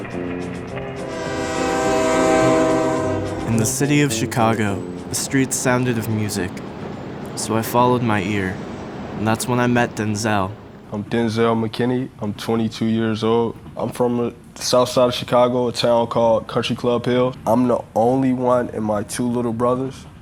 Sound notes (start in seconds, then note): 0.4 train horn blowing